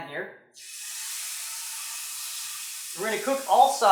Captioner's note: meat sizzles